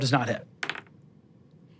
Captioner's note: dice rolling